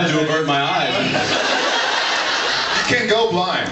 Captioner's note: laughs